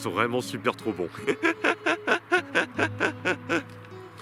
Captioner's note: laughs